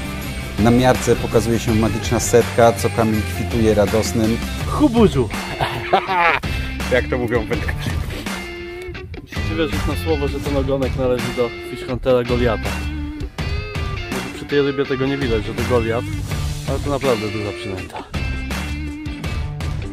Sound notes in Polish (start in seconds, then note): 5.3 radosne odgłosy